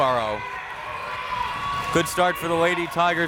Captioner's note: crowd members cheering